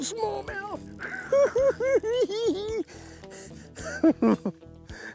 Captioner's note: giggle s